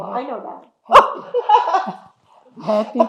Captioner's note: laughing